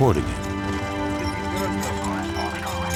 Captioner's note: mechanical noises